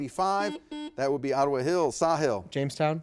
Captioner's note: buzzer beeps